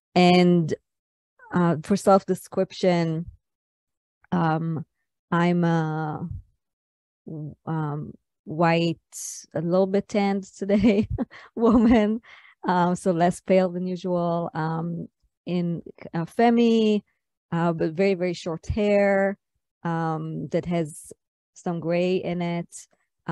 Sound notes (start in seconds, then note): 11.7 laughs